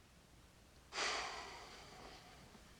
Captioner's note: sighs